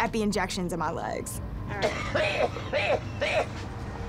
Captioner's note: coughing